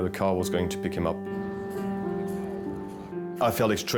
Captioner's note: uplifting instrumental music; people chattering